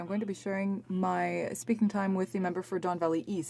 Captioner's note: speaking french